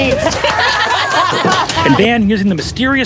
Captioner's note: players laughing